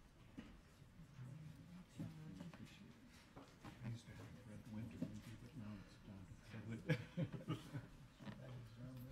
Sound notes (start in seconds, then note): 4.7 speaking faintly